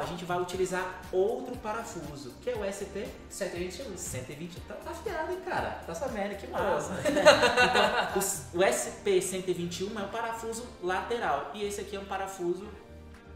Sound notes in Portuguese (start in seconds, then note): 6.8 risadas